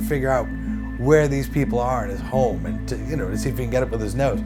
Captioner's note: none